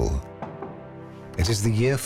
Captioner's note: knock on door